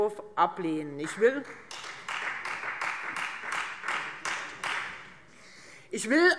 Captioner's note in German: Beifall Freie Demokraten